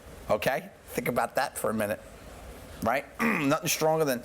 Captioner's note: grunts